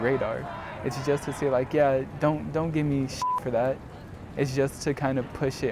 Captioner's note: beep